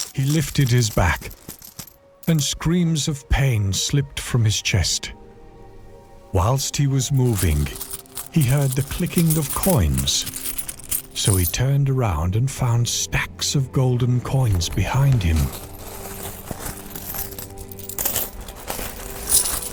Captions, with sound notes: He lifted his back and screams of pain slipped from his chest. Whilst he was moving, he heard the clicking of coins, (coins clicking) so he turned around and found stacks of golden coins behind him. (coins clattering)